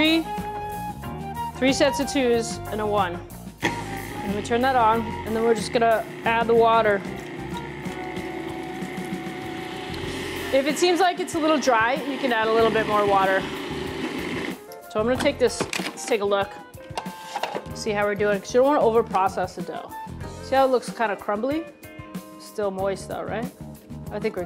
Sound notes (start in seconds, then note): 3.6 grinding